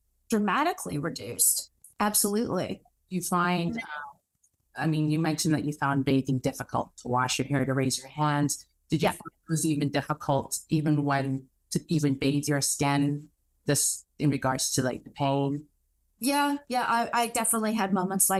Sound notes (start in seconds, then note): none